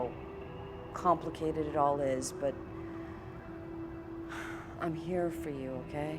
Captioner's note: sighs